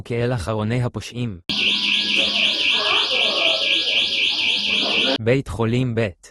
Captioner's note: recorded alarm